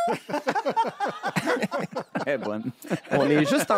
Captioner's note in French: rires